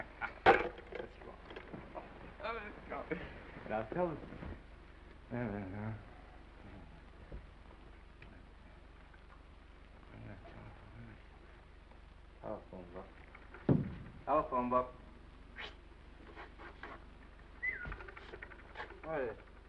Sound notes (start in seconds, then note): 0.2 Norman laughs; 2.6 laughs; 15.6 whistles